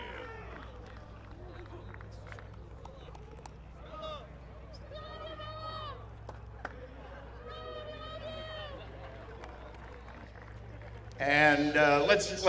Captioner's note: applause